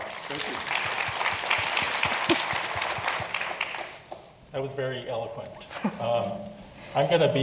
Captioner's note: applause; laugh